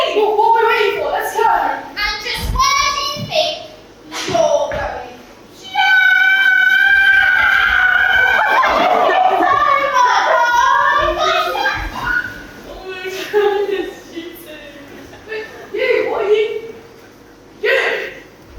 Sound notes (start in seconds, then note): 9.3 happy squeals